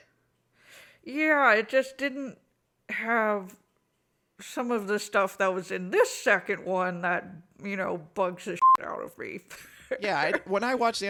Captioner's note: laughs